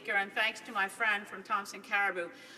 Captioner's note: speaking French